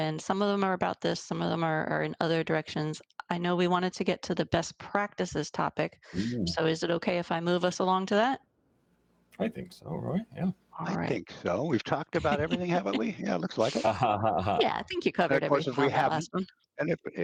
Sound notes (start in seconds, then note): 14.3 laughing